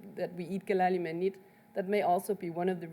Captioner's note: speaks in foreign language